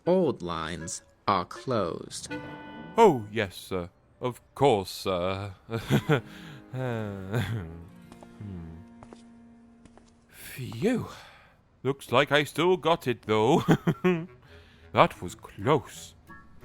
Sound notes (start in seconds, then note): 5.5 chuckles and sighs